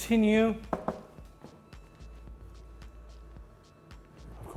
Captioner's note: cabinet knock